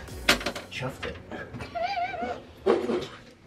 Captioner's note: laughing